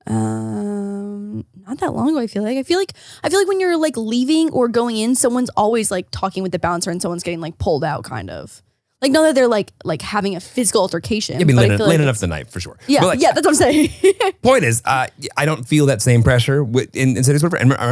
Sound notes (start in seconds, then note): 14.2 laughs